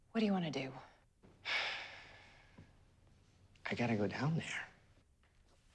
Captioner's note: sighs